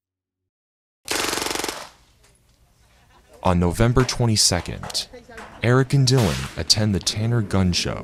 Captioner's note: rapid gunshot sounds